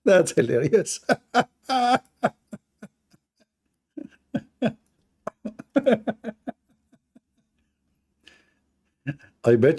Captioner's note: Ketawa